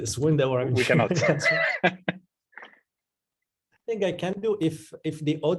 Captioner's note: man laughing